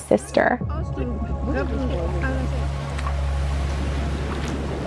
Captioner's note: people chattering